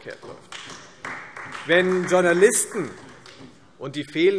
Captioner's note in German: Beifall Freie Demokraten und vereinzelt AfD